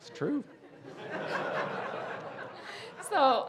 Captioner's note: audience laughing